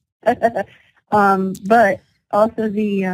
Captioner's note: laughter